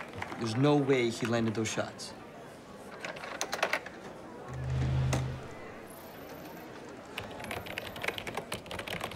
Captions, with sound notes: - There's no way he landed those shots. (keyboard clicking)